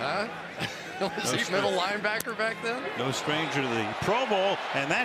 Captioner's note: laughs